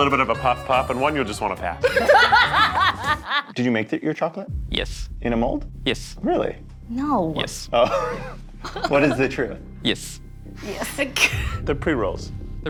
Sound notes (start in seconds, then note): 1.8 laughing